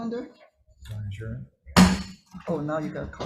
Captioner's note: gavel pounding